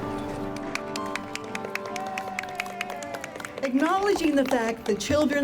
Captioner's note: audience claps and cheers